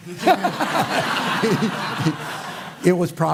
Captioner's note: laughter